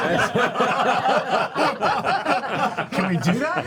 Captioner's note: laughter